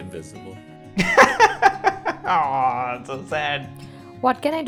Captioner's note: laughs